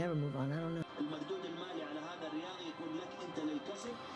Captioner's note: on television in foreign language